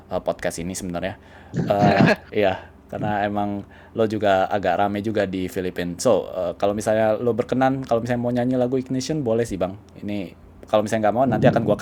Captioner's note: laugh